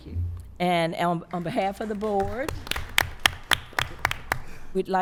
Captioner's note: applause